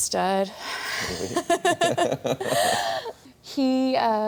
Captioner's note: both laughs